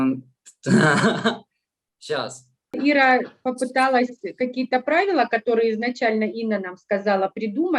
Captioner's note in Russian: Смеется